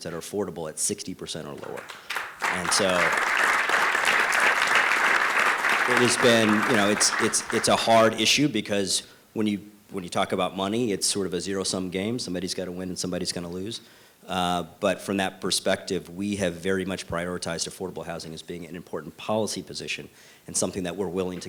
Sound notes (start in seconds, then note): 1.6 applause